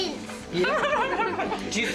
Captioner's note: laughs